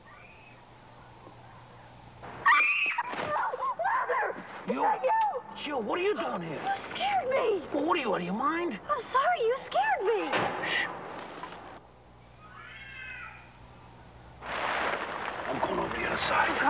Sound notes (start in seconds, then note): 2.4 Molly screams; 12.4 cat yowls; 14.4 plastic rustling